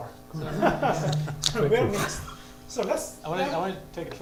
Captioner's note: laughter